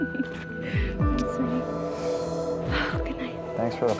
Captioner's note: laughs